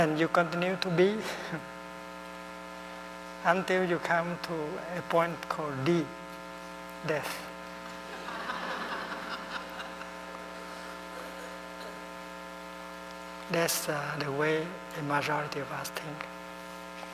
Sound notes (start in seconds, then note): 8.0 laughter